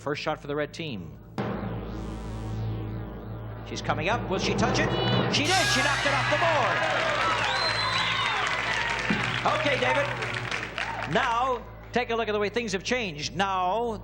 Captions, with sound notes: Sue, the first shot for the red team. -(dramatic music) -She's coming up. Will she touch it? She did! She knocked it off the board! -(applause and cheering) Okay, David. Now take a look at the way things have changed.